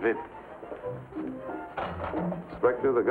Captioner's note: coffee cup clatters